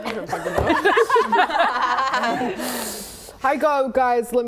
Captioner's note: laughing